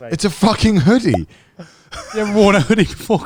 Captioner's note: sound effect pops